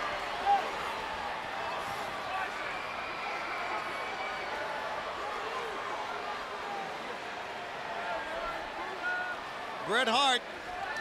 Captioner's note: crowd chatter